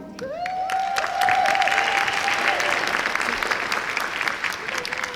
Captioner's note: applause and cheering